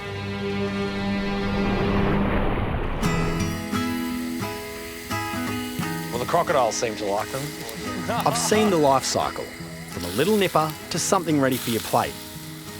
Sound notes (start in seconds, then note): 3.0 fish sizzles